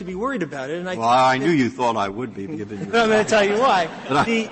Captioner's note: laughter